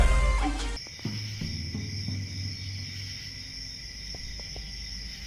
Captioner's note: crickets chirp